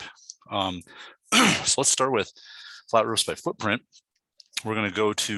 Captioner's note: clears throat